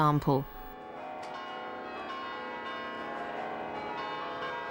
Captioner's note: bells ringing